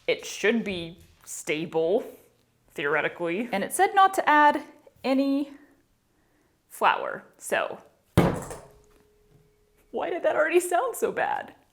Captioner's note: dramatic thud